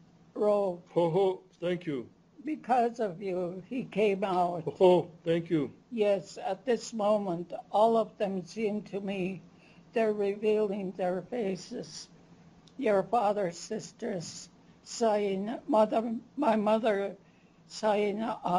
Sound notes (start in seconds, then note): 0.9 non-english speech; 4.6 non-english speech